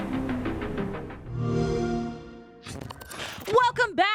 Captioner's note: xbox sound